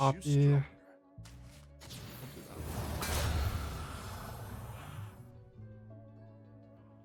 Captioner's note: blaster firing